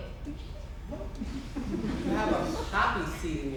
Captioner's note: audience laughs